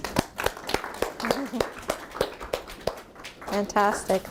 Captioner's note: applause